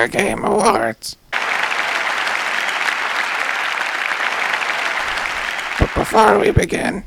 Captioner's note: applause